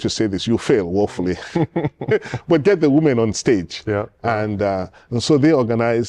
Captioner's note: laughter